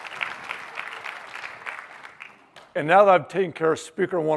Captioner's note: applause